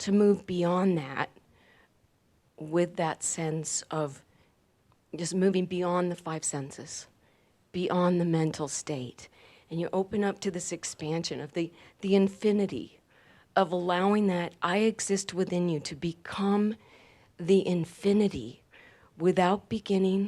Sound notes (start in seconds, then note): none